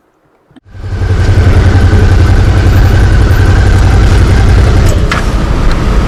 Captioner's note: motorbike engine